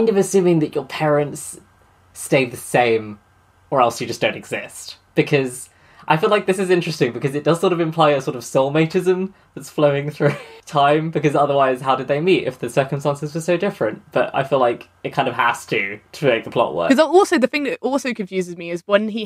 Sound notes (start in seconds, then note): 10.2 laughs